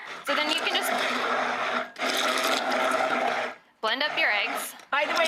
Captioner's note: grinding